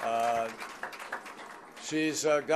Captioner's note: applause